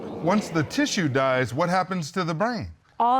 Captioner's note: audience exclaiming